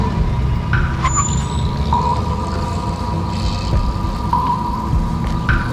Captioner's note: brakes squeaking